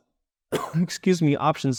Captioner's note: coughs